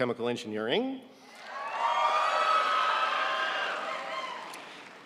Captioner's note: audience cheering